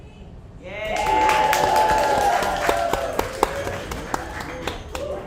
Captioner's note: audience applauds